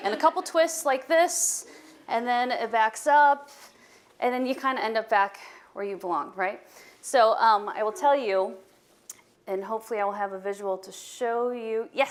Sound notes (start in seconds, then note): none